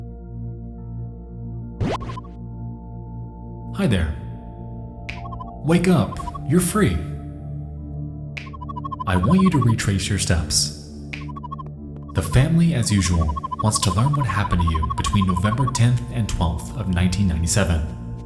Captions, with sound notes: (warbling sound) Hi there. Wake up. You're free! I want you to retrace your steps. The family, as usual, wants to learn what happened to you between November 10th and 12th of 1997.